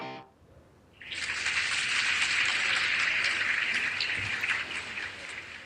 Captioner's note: audience claps